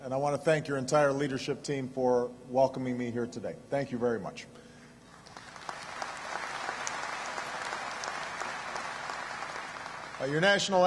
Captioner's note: applause